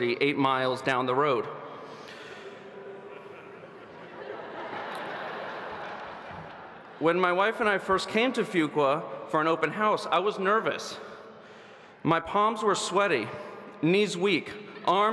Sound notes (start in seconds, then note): 2.7 audience laughing